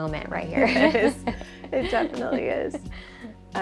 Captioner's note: laughs